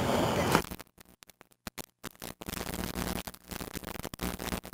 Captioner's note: flickering audio